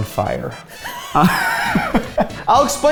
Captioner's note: both laugh